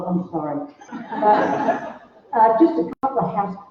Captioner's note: laughter